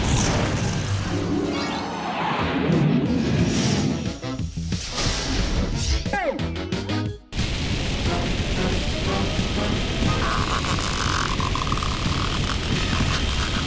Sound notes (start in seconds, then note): 11.1 squeaking